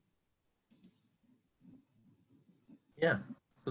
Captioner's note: mouse click